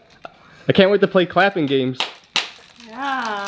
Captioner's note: clapping